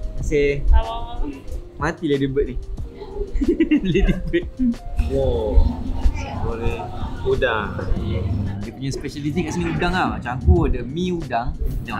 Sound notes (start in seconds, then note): 3.0 laugh